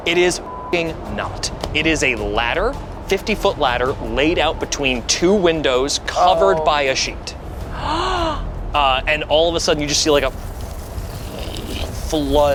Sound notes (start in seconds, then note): 0.4 beeps; 7.7 gasps